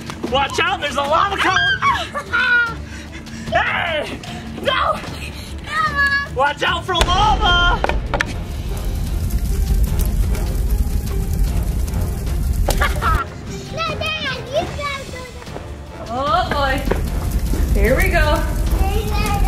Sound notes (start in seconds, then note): 9.0 fire spreading; 12.6 laughing